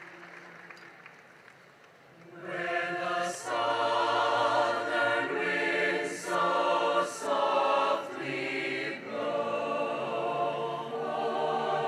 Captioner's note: cheering and applause